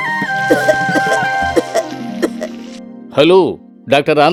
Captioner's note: coughs